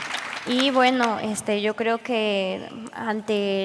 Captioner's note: applause